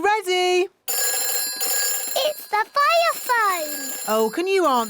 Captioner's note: phone rings